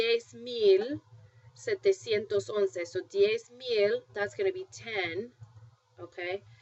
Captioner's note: spanish